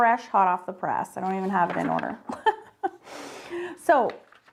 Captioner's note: laughs